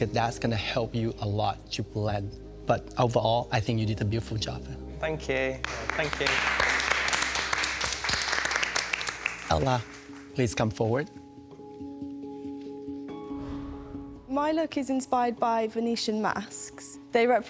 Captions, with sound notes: because that's gonna help you a lot to blend. But overall, I think you did a beautiful job. Thank you. Thank you. (applause) Ella, please come forward. (tense music) My look is inspired by Venetian masks.